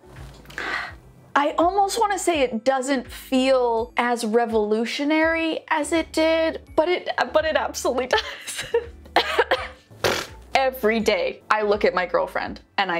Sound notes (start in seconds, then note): 8.4 laughs; 9.1 coughs; 10.0 sputters